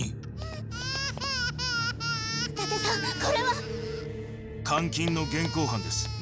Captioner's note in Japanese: 泣き声